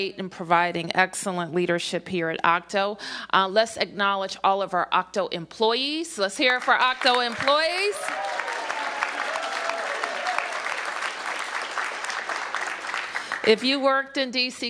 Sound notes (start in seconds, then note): 6.6 cheers and applause